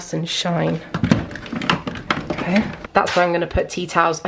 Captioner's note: items rattling